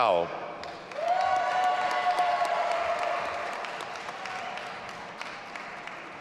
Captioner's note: audience applauding and cheering